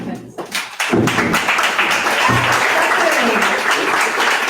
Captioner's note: audience applause